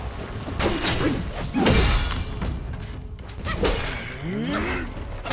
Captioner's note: weapons whooshing and exploding; metal clanking